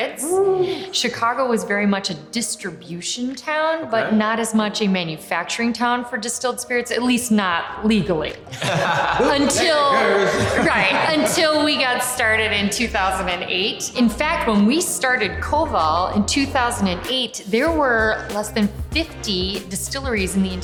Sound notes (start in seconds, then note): 8.5 laughing